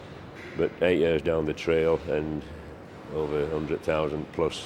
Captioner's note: none